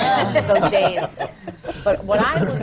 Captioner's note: laughter from the panel